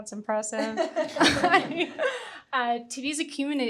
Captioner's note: everyone chuckling